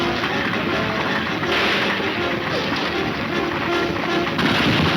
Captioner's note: gunshots banging